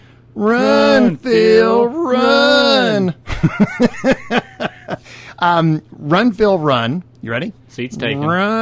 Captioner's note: In Unison like from Forrest Gump; then laughter